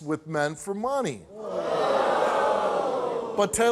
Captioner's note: audience ohs